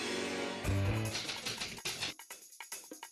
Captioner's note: typewriter clacking